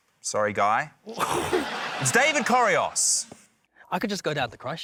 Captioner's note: laughter